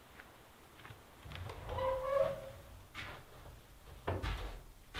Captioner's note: door opens